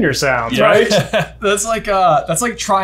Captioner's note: laughs